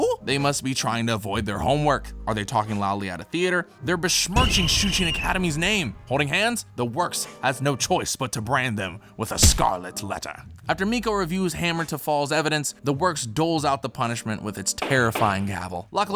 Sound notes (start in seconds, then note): 4.3 whistle blows; 14.6 gavel bangs